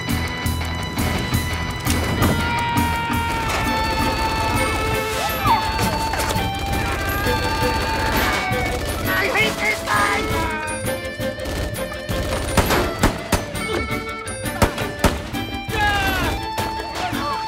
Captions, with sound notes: (screams) I hate this guy!